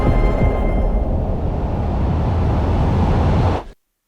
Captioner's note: air whooshes